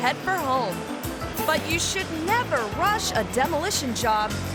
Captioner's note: worker shouts